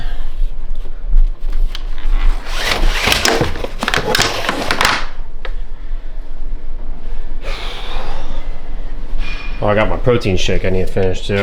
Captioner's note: clicking